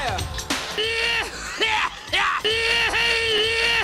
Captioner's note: lots of exaggerated coughing; reversed coughing